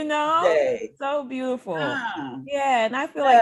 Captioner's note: laughing